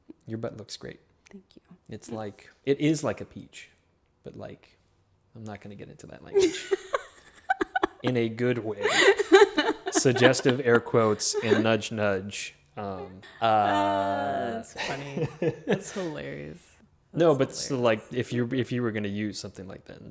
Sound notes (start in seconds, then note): 6.3 laughs